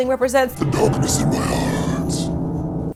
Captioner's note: demonic voice